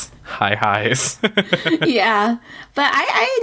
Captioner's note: laughs